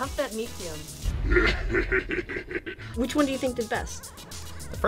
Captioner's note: laughs